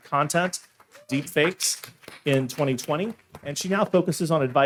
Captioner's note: audience applauding